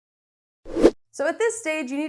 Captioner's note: air whooshing